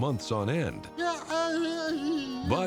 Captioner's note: Rocky whimpering